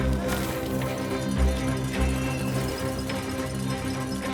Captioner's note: bells ringing